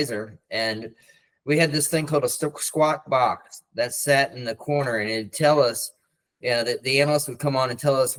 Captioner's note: loudspeaker